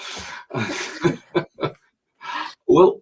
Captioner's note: both chuckling